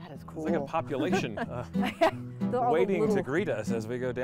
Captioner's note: laughing